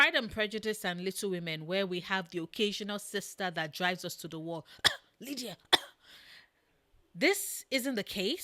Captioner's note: cough